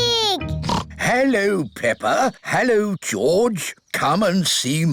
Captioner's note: oinks